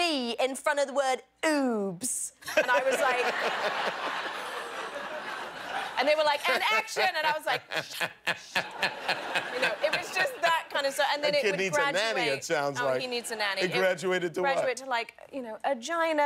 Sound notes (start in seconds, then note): 4.6 laughter